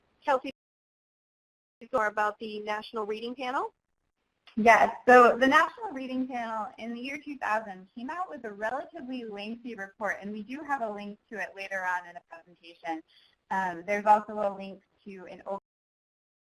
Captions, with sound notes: Kelsey, can you tell us about the National Reading Panel? - [Voiceover] Yes, so the National Reading Panel is the year 2000, came out with a relatively lengthy report, and we do have a link to it later on in the presentation. There's also a link to,